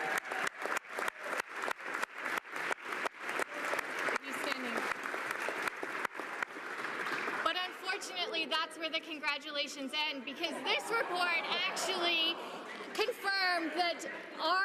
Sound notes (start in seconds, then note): 3.7 applause